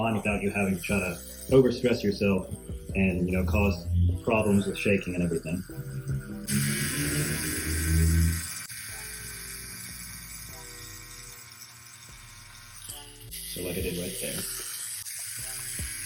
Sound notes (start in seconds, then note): 7.0 slow groovy music; 7.0 tattoo gun buzzing